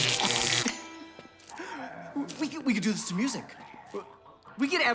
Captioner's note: zapping; laughs